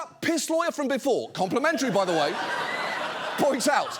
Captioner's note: audience laughing